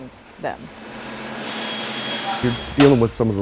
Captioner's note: repair noise